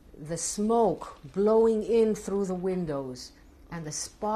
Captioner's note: none